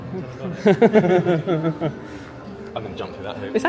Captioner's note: chuckles